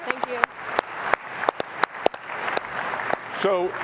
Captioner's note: applause